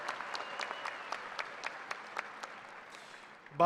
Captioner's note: cheers and applause